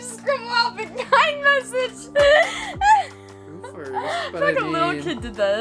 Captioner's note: laughs